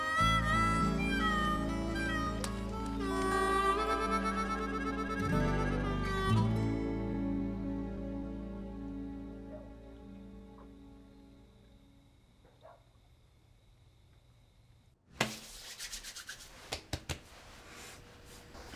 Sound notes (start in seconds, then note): 0.0 harmonica music; 9.4 dog barking outside; 15.2 rubbing, patting sounds